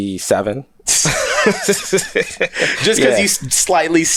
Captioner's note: both laughing